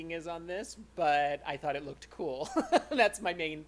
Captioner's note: laughter